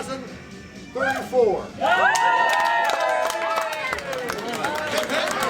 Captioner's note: cheering